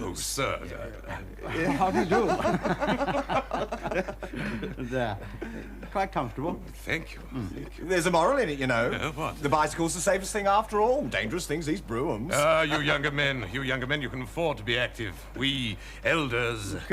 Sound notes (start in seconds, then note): 1.4 all laughing